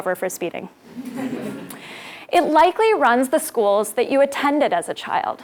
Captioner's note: laugh